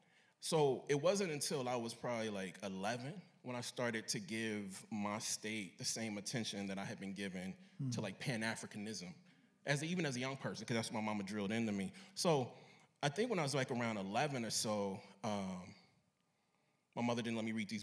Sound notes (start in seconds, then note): none